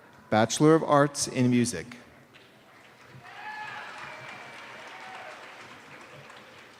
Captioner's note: cheers and applause